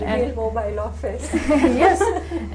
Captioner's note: laughter